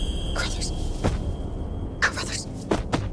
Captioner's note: foot thuds